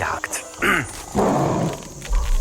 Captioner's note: roar